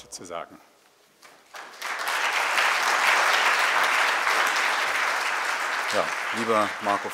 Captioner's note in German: Applaus